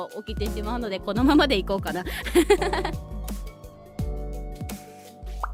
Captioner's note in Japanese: 笑い